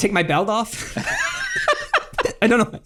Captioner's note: laughs